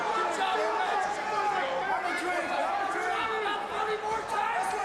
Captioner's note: crowd jeers